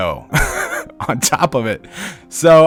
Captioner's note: laughs